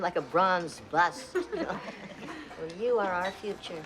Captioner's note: laughing